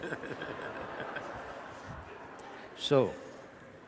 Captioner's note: laughter from the audience